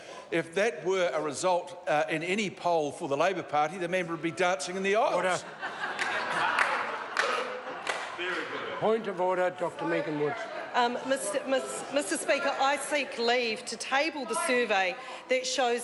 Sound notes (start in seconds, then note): 7.2 members laugh